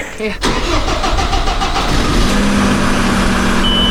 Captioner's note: engine revs